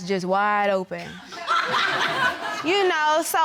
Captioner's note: audience laughing